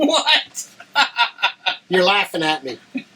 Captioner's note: Dr. Evans laughing